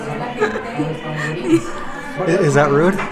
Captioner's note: laughs